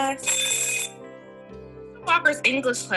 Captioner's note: bell rings